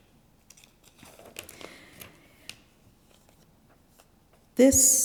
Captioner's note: paper rustling